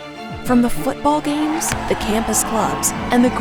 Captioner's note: crowd cheering